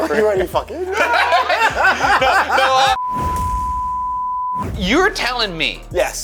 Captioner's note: group laughing; screen beeping